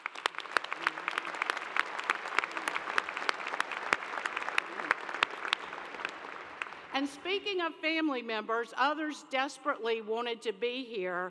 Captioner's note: applause